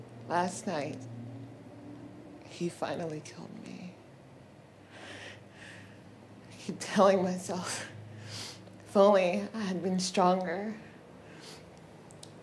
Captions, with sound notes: Last night he finally killed me. [agitated breath] I keep telling myself if only I had been stronger.